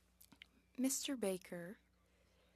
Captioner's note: speaking French